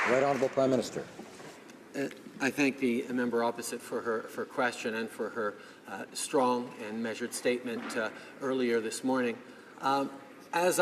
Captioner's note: some Applause